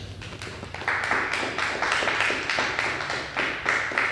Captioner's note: crowd clapping